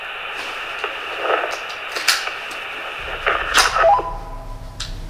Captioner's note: interference is heard in the radio